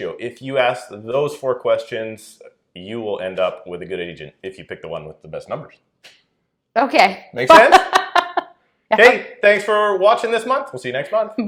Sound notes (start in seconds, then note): 7.5 laughing